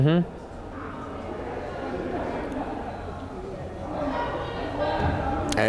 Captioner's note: crowd chattering